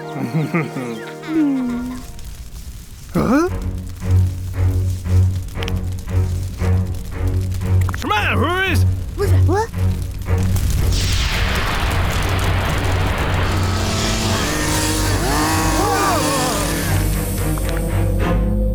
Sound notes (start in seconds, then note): 1.1 rustling; 4.5 mysterious music; 8.1 scared gibberish; 9.5 tense music; 13.2 machine buzzing; 15.2 all gasp